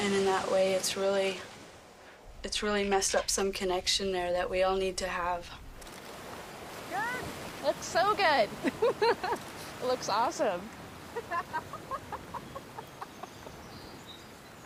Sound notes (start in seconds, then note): 11.1 laughs